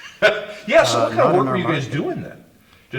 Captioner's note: laughs